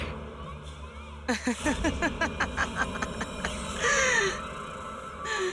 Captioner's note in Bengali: সশব্দ হাসি